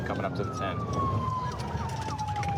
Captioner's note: sirens